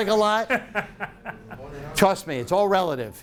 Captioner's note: laughing